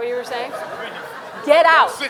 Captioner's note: audience laughing